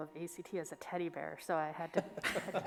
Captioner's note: laughing